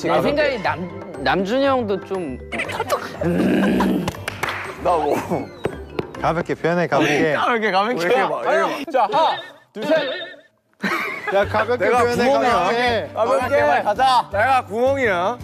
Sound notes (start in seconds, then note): 2.6 laughing out so loud